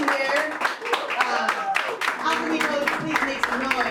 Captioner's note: applause